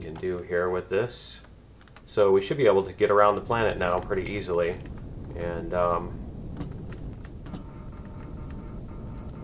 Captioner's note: turret turning